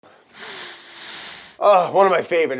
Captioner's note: sniffing